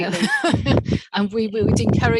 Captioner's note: laughs